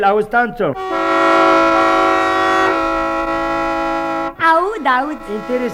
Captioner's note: horn